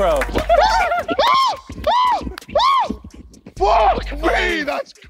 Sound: JJ shrieking

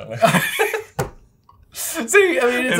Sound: both laugh

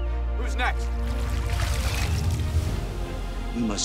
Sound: water dripping

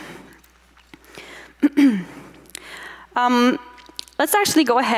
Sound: clears throat

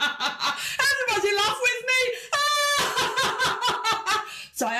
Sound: laughs

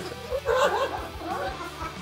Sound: laughs

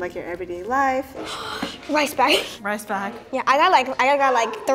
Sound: exclaiming

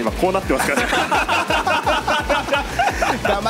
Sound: laughs

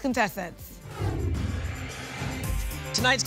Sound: whoosh

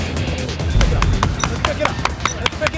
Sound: claps

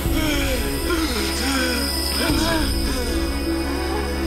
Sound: Mitch Grunting

